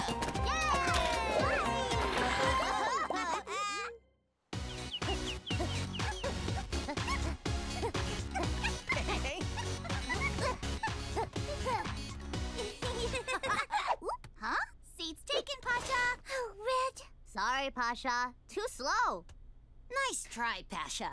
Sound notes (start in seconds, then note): 0.5 cheering; 4.5 birds chirping; 4.8 laughing; 9.8 upbeat music